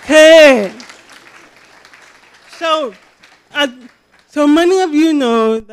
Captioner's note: cheering